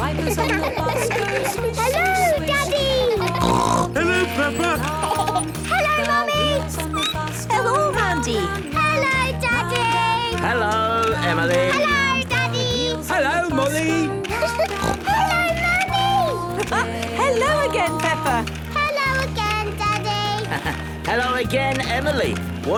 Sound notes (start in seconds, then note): 0.0 laughter; 3.0 snorting; 4.8 laughter; 7.0 squeaking; 14.4 giggling and snorting; 16.8 laughing; 20.4 laughing